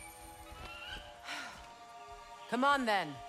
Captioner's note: sigh